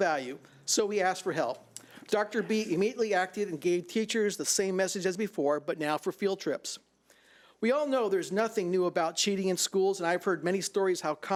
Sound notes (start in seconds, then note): none